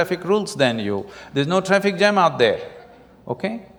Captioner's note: laughter